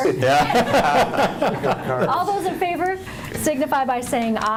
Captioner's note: laughing